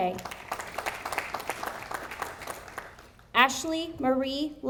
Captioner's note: audience applauding